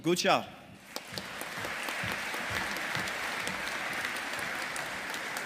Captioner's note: audience applauding